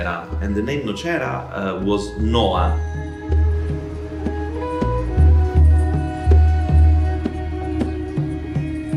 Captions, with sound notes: and the name Nocera was Noah. (gentle music continues) (birds chirping)